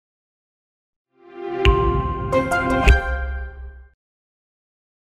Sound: logo chiming

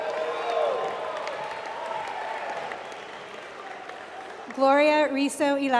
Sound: applause

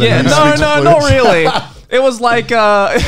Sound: laughing

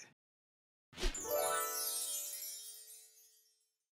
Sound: stars shimmering

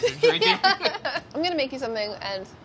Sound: laughs

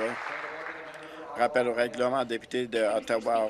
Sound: applause

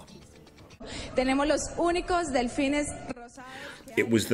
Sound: woman speaking in Spanish

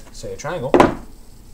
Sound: heavy thud

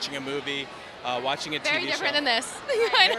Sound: laughs

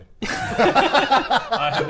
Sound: laughter

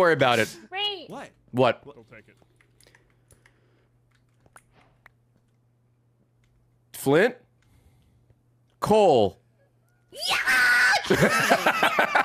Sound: laughs

